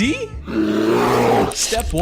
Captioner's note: grrrrrr